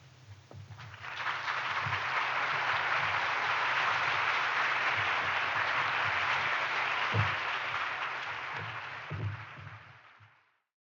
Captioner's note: applause